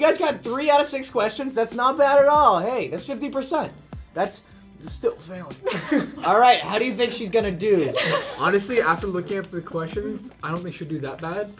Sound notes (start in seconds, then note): 7.8 chuckles